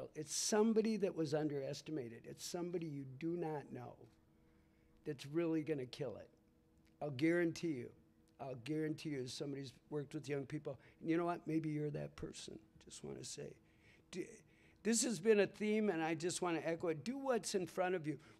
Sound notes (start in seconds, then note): none